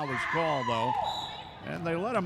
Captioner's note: referee whistling